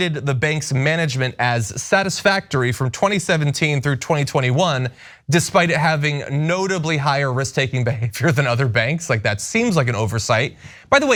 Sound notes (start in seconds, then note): 7.6 laugh